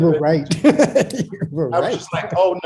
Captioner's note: laughs